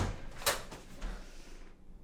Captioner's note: door locks